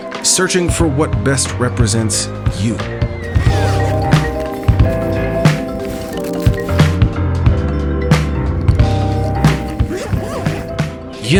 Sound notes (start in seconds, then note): 3.2 bag zipping; 6.2 accessories rustling; 8.7 bag zipping